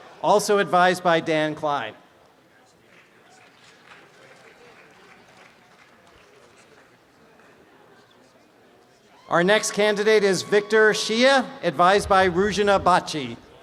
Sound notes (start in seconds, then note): 2.1 background audience chatter; 3.2 applause and cheering